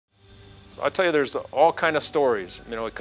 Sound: voiceover

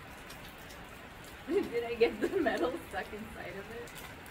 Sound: laughs

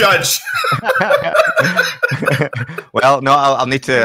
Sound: both laugh

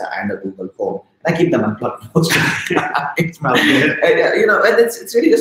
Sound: chuckling

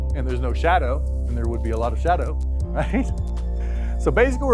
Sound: laughing

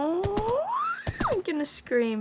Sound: squeeling

